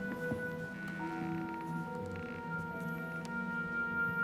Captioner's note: floor creaks